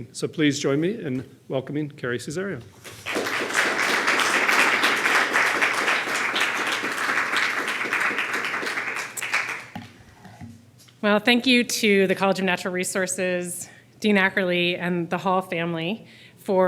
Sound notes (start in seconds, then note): 2.8 audience clapping